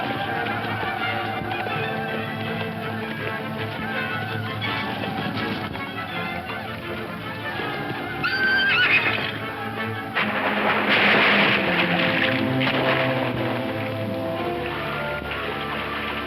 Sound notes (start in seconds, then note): 0.1 tense classical music continues; 7.3 horse neighs; 10.8 water splashing